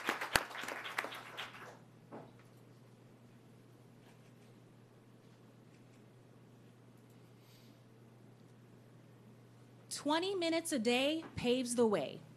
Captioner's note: applause